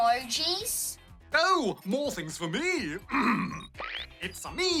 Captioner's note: clears throat